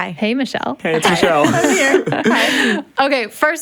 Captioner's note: laughs